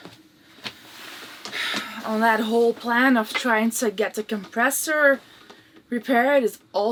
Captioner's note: sighs